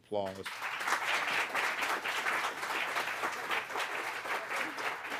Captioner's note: audience applauding